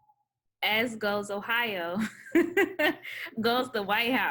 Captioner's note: laughs